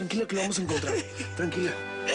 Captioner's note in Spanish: Sollozos